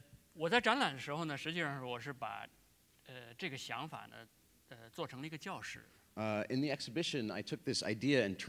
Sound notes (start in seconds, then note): 3.6 speaking in Chinese